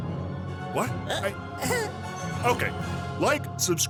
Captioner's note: Trick and Lester exchange noises